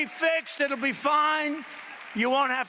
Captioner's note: applause